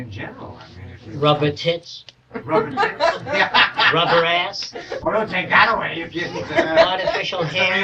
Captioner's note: laughter; more laughter; laughter